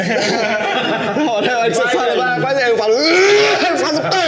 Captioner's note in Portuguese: Risadas; argh